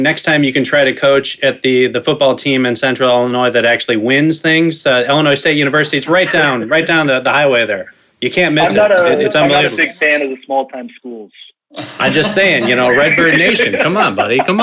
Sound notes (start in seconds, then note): 11.8 all laughing